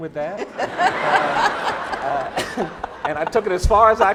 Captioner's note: laughing